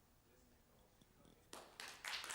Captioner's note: applause